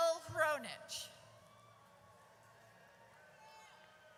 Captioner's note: audience cheers